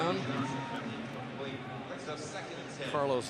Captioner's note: pa announcement